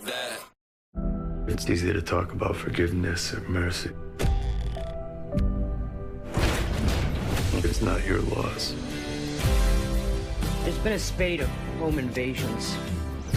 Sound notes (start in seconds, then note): 6.1 dramatic instrumental music; 6.2 crashing; 9.8 dramatic rock music